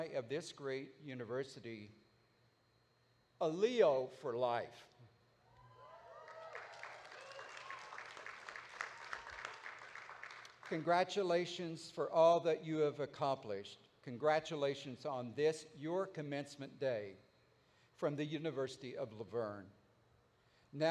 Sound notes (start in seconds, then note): 6.0 audience applauding